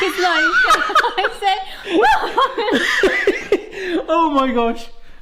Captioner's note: boisterous laughter